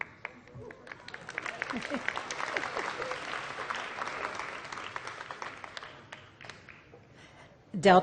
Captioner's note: applause